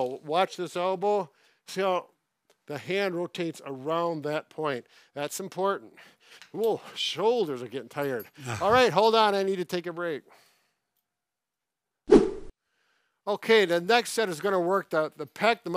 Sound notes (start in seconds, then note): 8.3 laughs